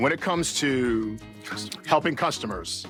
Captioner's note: whispers